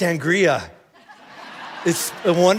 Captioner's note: congregation laughing